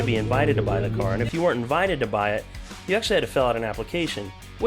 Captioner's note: engine roars